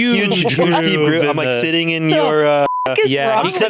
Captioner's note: beep